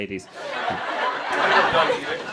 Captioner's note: crowd laughing